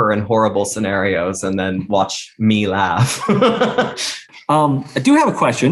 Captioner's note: laughs